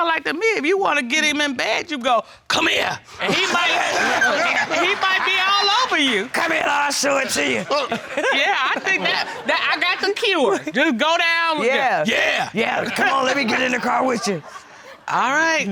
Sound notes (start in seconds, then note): 2.9 deep voice; 3.2 all laugh; 6.8 deep voice; 8.3 laughs; 11.9 deep voice; 12.7 chuckles; 13.3 deep voice